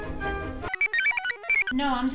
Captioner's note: computer chirps